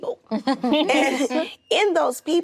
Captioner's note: actresses laughing